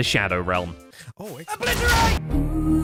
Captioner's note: explosions